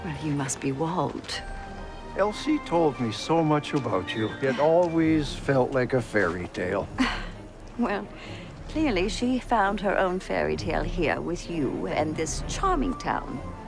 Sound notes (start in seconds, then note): 6.9 sighs